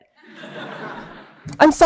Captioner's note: laughter